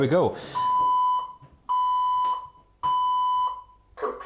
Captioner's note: beeping